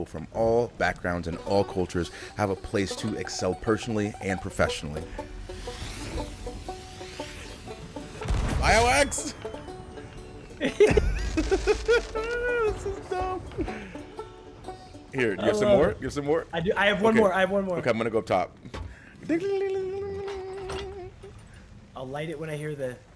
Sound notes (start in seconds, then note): 10.5 laugh